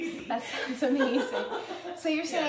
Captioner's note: laughing